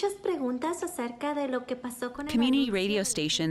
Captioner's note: speaks in foreign language